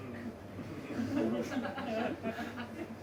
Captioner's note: audience laughs